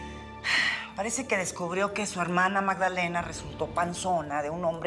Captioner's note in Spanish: suspiros